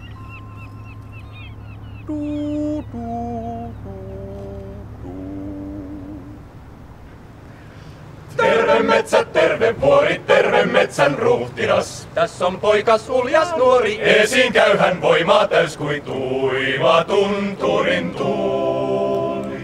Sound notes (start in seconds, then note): 2.0 humming; 8.3 singing in finnish